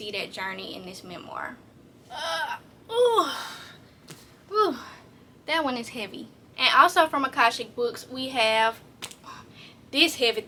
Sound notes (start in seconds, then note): 3.0 grunts from heaviness